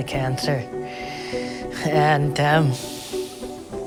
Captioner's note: sighs